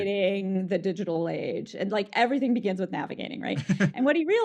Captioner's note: laughs